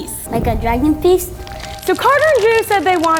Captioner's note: crackling fire